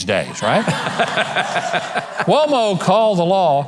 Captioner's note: audience laughs